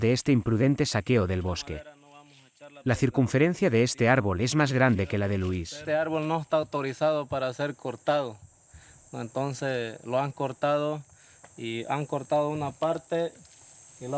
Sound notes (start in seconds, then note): 6.1 speaking in foreign language